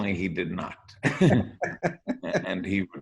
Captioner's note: laughs